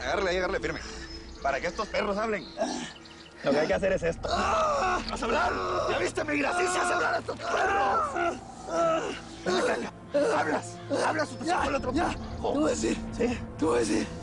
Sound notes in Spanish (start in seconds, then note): 4.6 Quejidos; 8.6 Quejidos